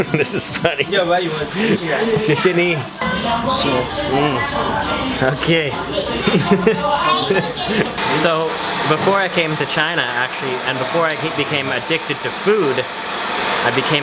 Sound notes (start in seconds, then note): 0.0 chuckles; 2.3 speaks in foreign language; 6.6 laughs